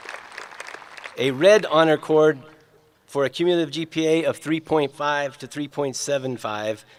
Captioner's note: applause